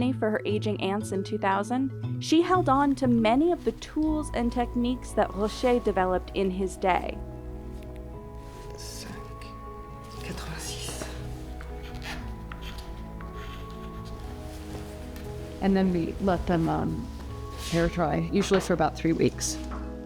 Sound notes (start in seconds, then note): 9.0 speaks in French; 12.2 inquisitive music